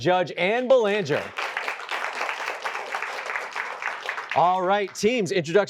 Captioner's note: applause